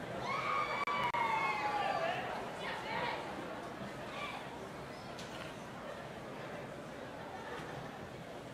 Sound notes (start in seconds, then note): 0.2 audience cheering